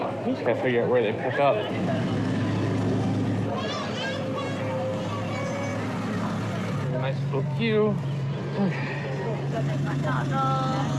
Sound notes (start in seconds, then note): 8.4 sighs